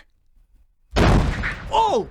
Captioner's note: explosion